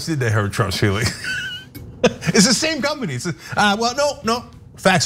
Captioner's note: laugh